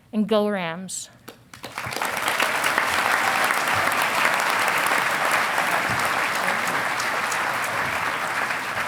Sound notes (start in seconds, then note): 1.5 audience applauding